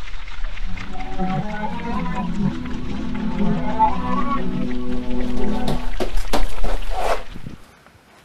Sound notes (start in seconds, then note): 2.3 the noise ascends